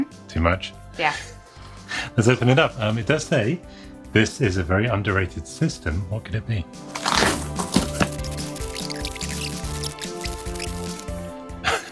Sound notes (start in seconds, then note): 6.9 sellotape tearing; 7.8 tape skipping forward